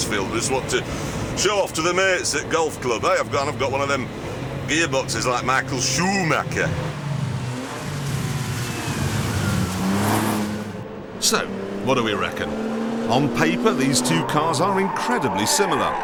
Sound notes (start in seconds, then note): 3.0 puts on a yorkshire accent